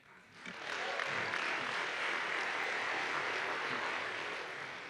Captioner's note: audience applauds